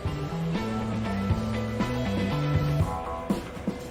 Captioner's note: engine roars; upbeat music